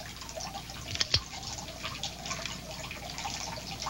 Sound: gun clicking

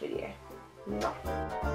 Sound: kiss

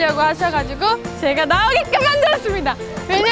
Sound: he He

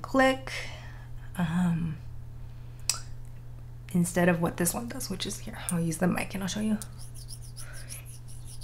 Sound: metal scraping sounds

